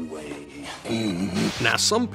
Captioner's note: groans